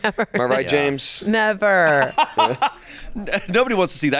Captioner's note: laughs